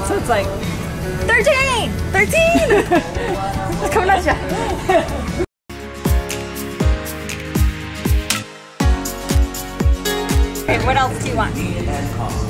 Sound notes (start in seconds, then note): 2.4 laughs; 5.7 upbeat music